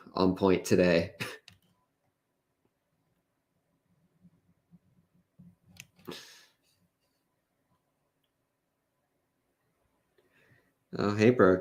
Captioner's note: chuckles